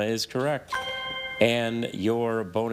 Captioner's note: chime resonating